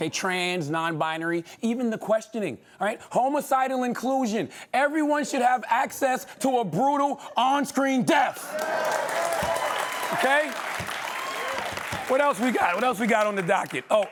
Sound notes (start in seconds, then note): 8.3 cheering and applause